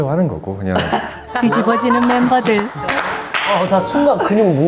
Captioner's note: laughing